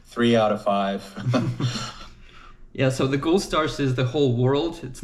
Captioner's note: chuckles